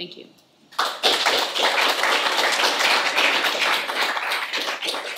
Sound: audience applauding

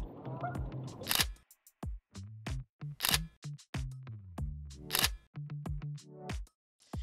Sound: camera shutter clicks

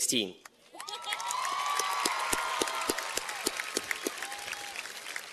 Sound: cheers and applause

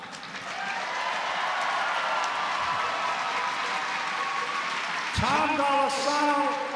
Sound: applause

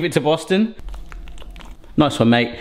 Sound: slurping his tongue

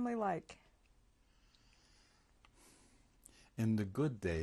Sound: pauses for 3 seconds

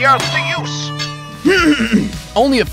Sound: throat-clearing sound from VO talent

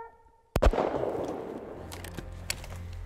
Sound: shot sounds; rifle bolt opens

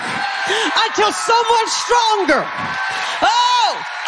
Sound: audience cheering

